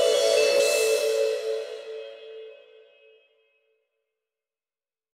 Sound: music Stops

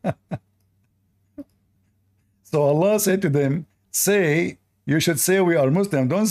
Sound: Ketawa

